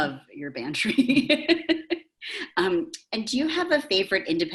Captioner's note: chuckles